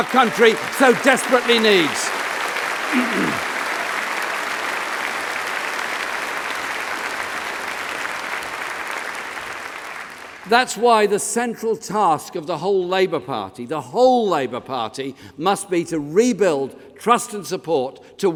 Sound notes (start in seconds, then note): 7.0 applause